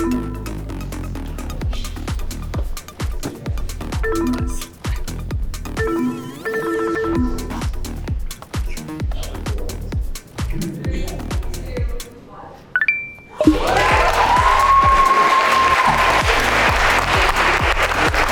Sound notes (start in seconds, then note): 0.2 electronics beep; 0.2 upbeat music; 3.9 electronics beep; 4.4 upbeat music; 5.7 electronics beeping and ringing; 8.4 upbeat music; 12.8 electronics ring; 13.4 group applauds